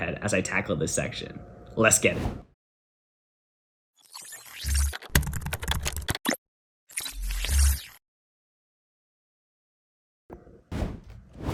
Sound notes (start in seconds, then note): 5.1 keyboard rattling